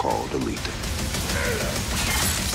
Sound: grunts

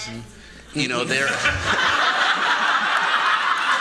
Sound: laughter

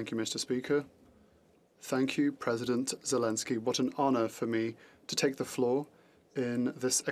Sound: speaking French

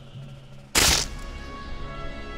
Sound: rock cracks

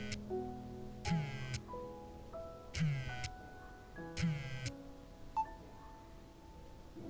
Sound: phone vibrating

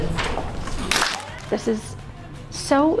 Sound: audience applauds

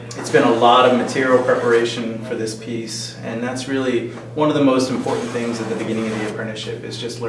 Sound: sound of tool scraping wood

